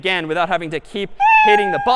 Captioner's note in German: meow